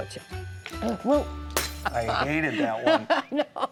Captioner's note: glass breaks; laughs